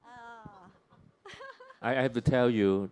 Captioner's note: chuckles